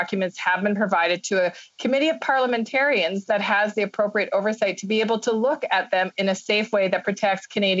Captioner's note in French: voix de l'interprète